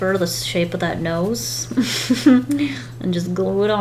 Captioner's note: laughs